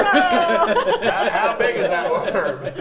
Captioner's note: players laughing